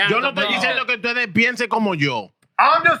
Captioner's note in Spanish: Hablando en idioma extranjero